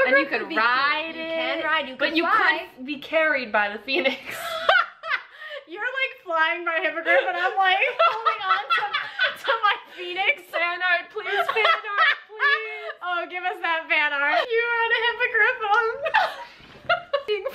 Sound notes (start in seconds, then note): 4.2 both laughing